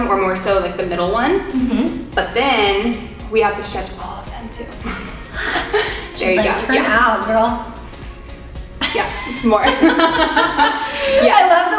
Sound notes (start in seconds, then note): 4.9 quietly chuckling; 8.8 both laughing